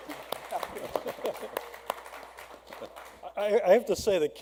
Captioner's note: applause